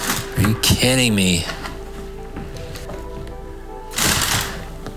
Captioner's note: paper rustling